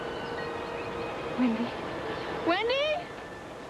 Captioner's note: quietly; shouts